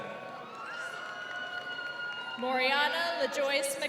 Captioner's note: crowd cheering